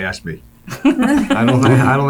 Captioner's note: laughing